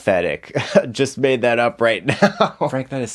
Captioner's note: chuckles